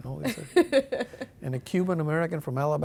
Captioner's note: laughing